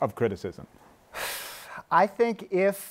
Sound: sighs

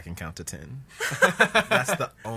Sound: laughs

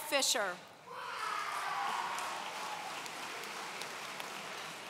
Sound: audience cheering

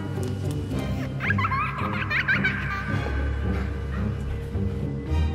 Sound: creepy giggling

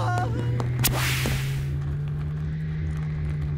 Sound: whoosh

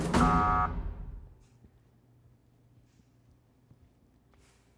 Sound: soft buzzer sounds

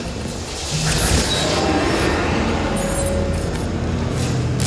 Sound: beeping

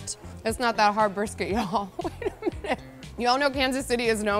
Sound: laughs

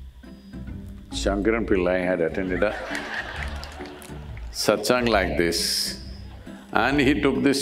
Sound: laughter

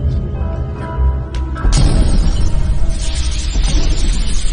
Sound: glass shattering

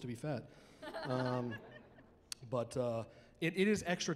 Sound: chuckling

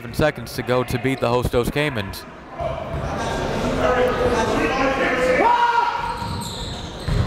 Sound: coaches and players yelling

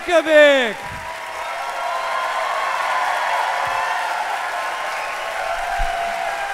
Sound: audience applauding; audience cheering

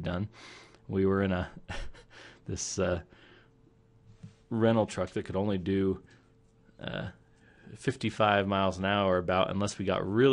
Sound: chuckling

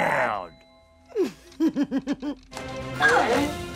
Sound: giggling

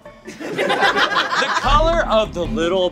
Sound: audience laughs

